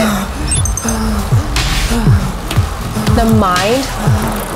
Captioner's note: beeping; heavy breathing